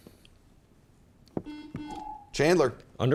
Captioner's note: buzzer chimes